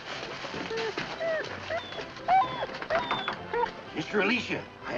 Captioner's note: dogs whining